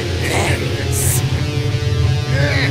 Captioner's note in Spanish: Se Ríe